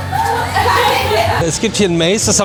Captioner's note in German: gelächter